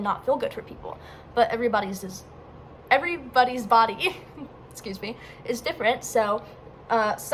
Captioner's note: stutters